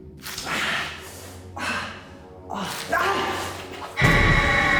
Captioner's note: light dramatic music; Danny gasps; woman screeching